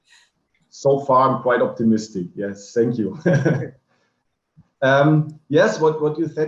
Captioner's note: laughing